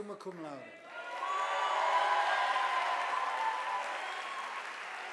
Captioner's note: audience applauding